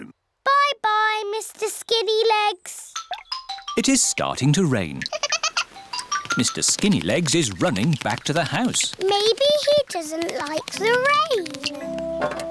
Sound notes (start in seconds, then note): 5.0 giggles